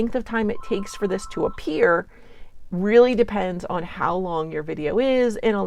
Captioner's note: phone rings